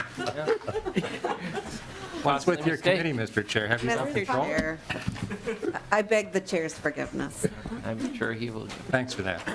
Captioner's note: laughing